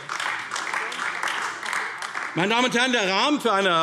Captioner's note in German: Beifall AfD